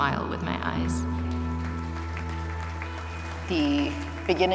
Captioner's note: applause